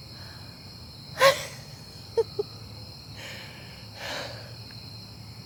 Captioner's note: Caroline laughing